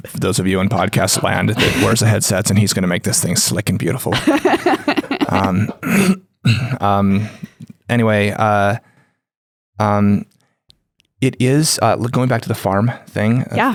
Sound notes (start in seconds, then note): 4.1 laughs